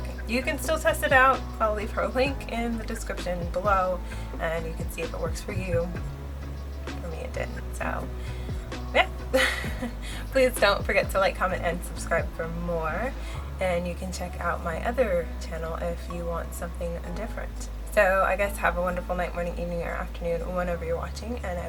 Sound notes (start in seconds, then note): 9.3 laughs